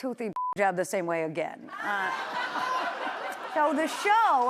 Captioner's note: laughter